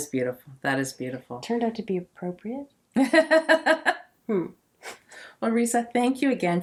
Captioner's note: laughs